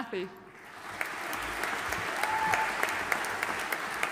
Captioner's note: audience applauding